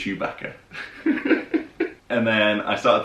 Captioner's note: laughing